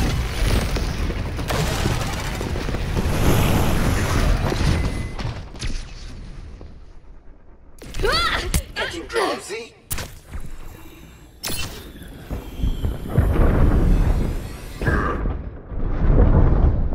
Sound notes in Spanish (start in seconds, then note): 4.6 pitidos de advertencia